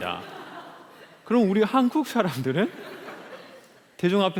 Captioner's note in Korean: 웃음